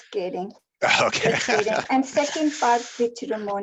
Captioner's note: laughs